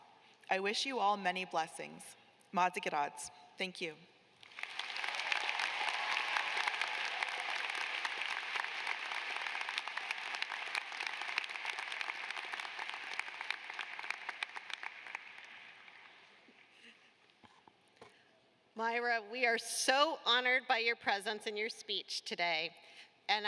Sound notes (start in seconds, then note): 4.4 applause